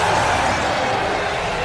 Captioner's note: growl